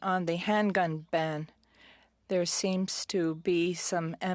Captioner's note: speaking French